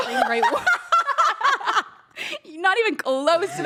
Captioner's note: everyone laughs